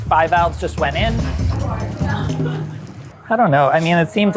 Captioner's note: people chattering